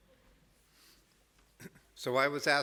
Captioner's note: clears throat